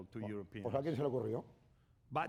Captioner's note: speaking spanish